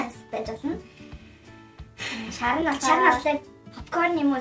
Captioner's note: sigh